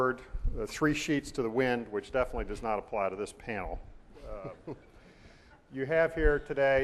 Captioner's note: laughs